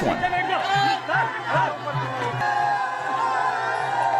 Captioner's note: chaotic shouts